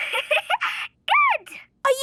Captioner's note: giggling